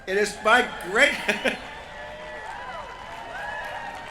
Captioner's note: cheering